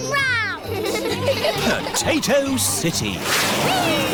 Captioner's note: all giggling